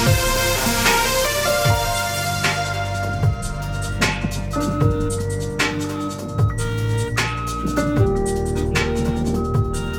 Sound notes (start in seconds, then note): 5.3 car alarm blaring; 5.3 gentle keyboard music